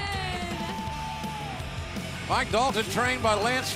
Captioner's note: crowd cheering